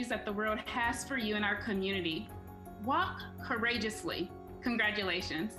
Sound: none

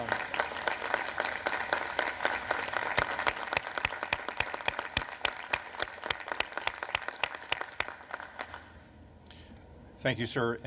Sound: applause

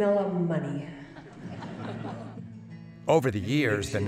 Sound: laughter

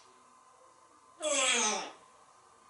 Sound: yawn

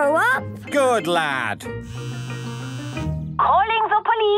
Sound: phone ringing

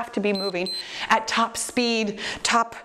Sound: timer beeps

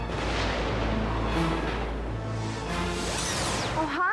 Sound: thunder crashes

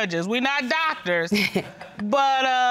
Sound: laughs

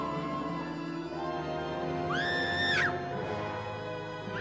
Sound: screaming

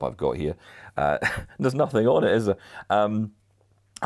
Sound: laughs

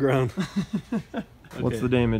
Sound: laughs

